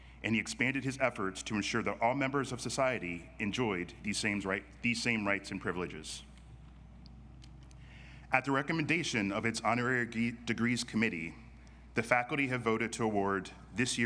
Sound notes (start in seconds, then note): none